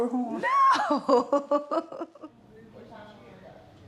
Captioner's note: laughs